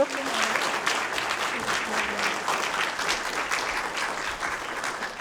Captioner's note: audience applauding